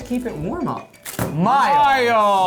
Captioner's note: ringtone